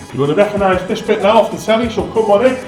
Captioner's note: Scouse / Liverpool Accent